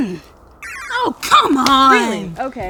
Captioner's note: electronic computer sounds playing